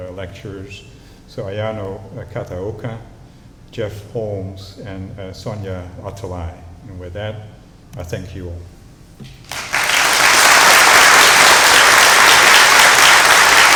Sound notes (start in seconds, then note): 9.4 applause